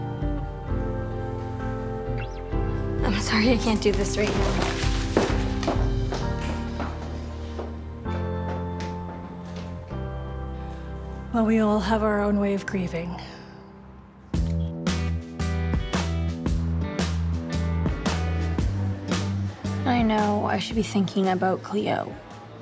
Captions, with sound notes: (slow music) I'm sorry, I can't do this right now. (footsteps) - Well, we all have our own way of grieving. (funky music) - I know I should be thinking about Cleo,